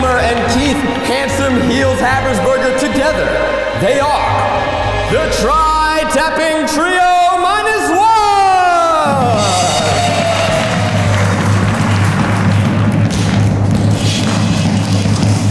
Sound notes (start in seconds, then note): 9.3 audience cheering